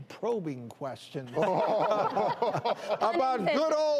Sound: all laughing

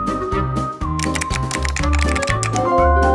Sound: typing

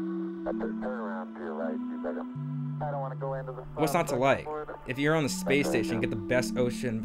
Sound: radio sounds

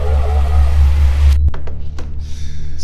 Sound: gasps

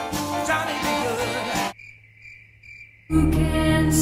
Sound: crickets

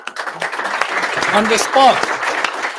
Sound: attendees applauding

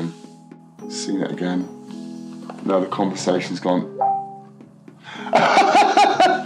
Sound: laughs

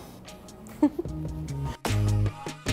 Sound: giggles

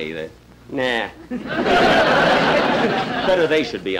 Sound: audience Laughing

